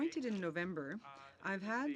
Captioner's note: speaking French